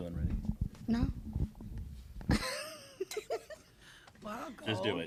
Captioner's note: laughter